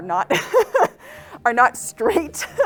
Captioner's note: laughs